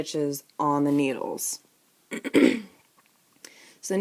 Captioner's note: clears throat